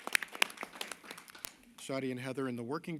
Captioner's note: applause